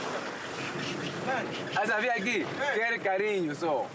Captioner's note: Portuguese spoken audio